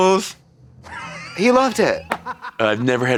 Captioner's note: Eddie laughs